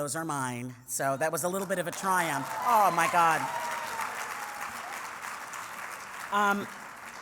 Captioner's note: applause